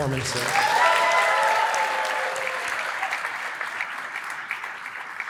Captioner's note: applause